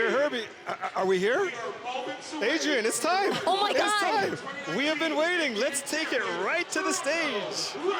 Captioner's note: yelling